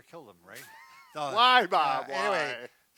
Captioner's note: snickers